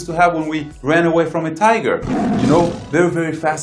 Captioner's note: animal growling